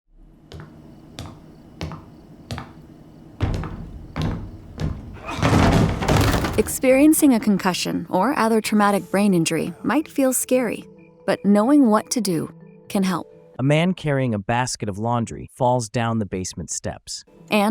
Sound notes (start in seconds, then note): 0.4 footsteps plodding; 5.9 man thudding